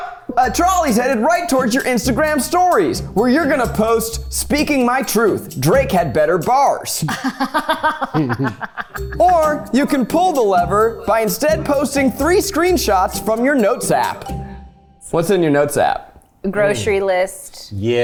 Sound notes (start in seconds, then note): 7.0 laughs